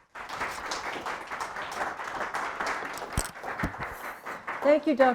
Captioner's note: audience applauding